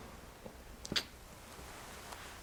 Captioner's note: kissy noises